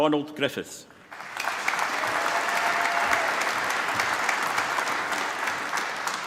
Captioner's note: applause